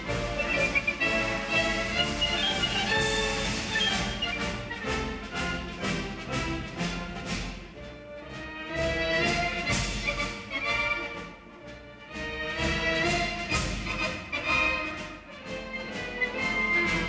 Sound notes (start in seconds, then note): none